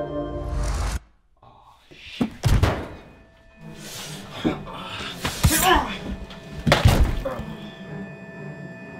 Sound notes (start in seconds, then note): 4.5 BEN grunts in pain